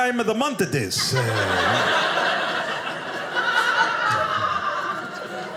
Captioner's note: audience laughing